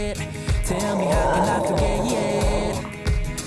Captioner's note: dog growling